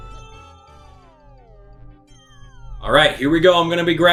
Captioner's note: instrumental music; gaming sounds